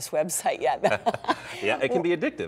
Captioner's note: laughter